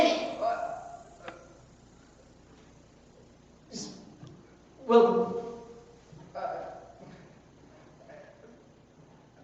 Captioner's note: stammers